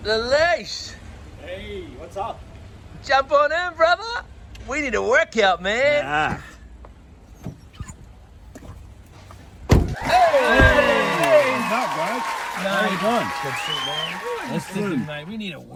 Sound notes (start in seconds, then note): 9.9 people cheering